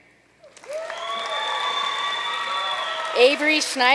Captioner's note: audience cheering and applauding